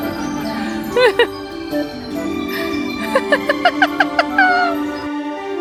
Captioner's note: laughing delightedly